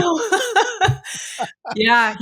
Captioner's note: laughing